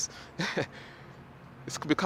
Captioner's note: laughs